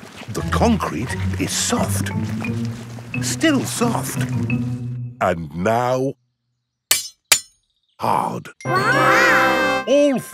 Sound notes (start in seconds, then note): 6.8 shovel clanks